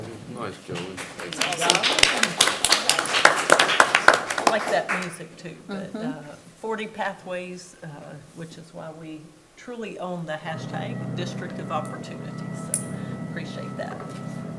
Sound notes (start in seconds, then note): 0.6 audience applauds